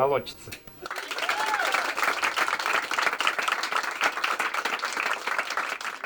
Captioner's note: applause